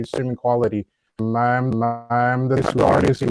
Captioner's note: signal distorts speaker